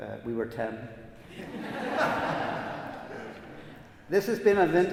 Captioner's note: audience laughs